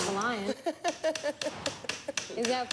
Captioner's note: Tommy laughs